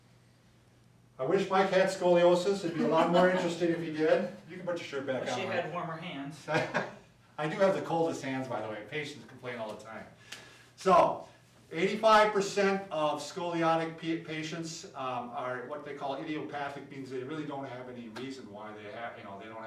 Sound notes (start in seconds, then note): 6.5 chuckles